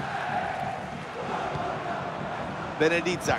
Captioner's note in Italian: Applauso